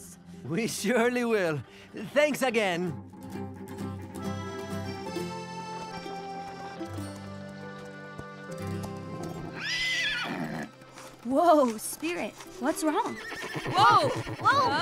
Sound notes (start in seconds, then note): 9.3 whinny; 12.9 whinny